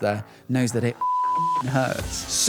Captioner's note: beeping